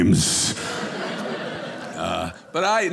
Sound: audience laughing

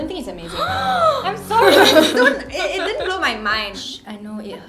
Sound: gasp

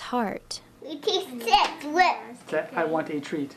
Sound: reading out loud

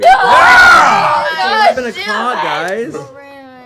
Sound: loud exclamations

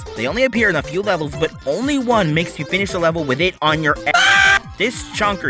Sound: aaahhh

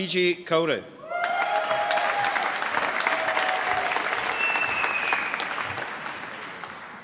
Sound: applause

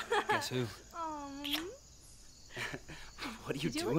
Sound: lips smacking

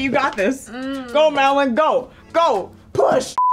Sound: groans

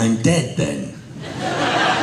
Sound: laughter

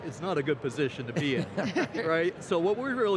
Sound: laughter

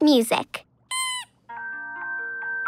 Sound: squeaking

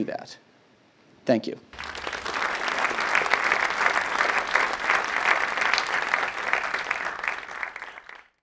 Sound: applause

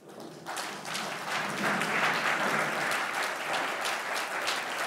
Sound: audience clapping

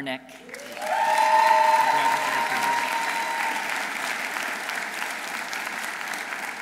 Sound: audience applauding; audience cheering

